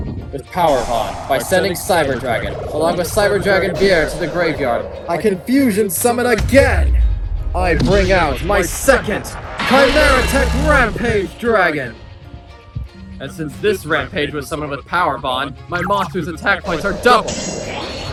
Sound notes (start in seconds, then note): 9.6 rampage growls